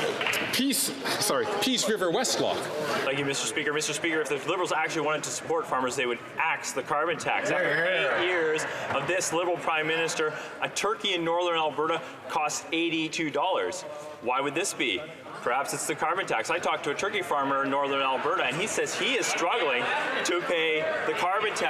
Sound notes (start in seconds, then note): 0.1 some Applause